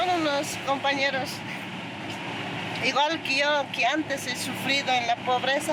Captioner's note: speaking in foreign language